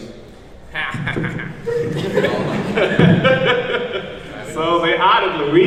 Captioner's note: laughing